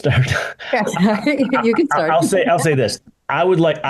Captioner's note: laughs